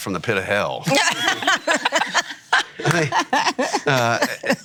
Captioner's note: laughing